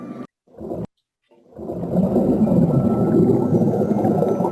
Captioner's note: oceanic sound